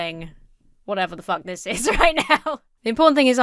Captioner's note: laughs